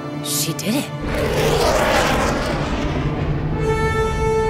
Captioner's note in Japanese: ジェット機の飛行音